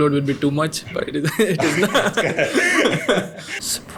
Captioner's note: laughs